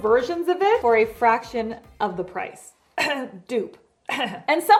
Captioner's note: ahem